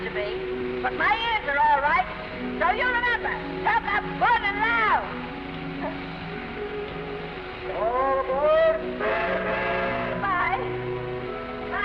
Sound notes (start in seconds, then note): 5.4 Esther laughs; 8.9 train horn toots